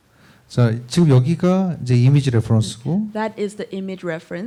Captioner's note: speaking korean